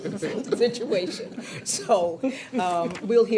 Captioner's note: people chuckling